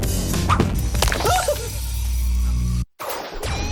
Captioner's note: squeals